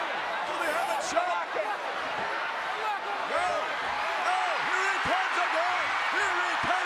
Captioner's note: applause